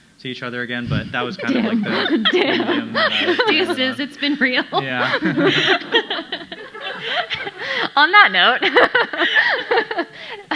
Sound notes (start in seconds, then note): 5.9 audience laughing; 8.7 laughs